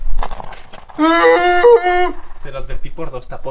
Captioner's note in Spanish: Grito de simio